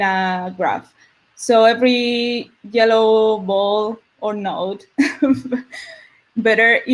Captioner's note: laughs